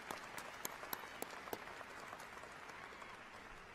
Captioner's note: applause